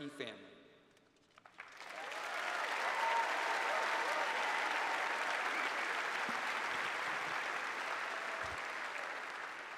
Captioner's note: cheers and applause